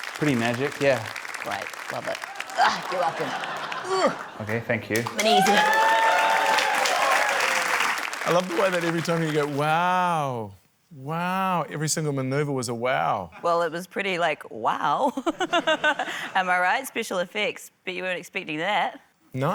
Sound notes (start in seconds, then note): 2.6 grunts; 5.0 cheering, applause; 15.8 laughs